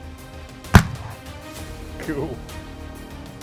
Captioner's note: gun shot